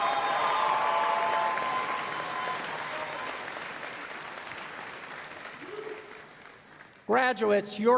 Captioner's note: applause